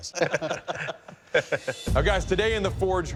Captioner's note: laughter